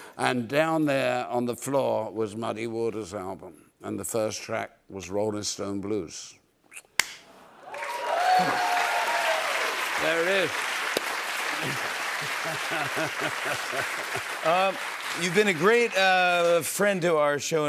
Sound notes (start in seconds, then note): 7.4 cheers and applause; 12.2 laughing